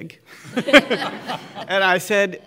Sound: laughing

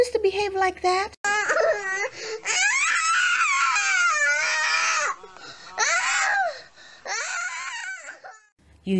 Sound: little girl having a tantrum

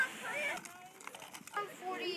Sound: children voices; snowshoes on pavement

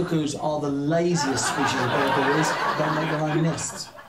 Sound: laughter

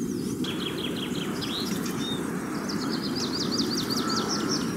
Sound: birds chirping

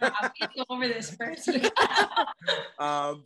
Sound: laughs

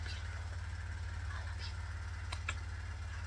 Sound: kisses

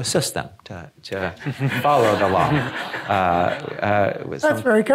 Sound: audience laughing

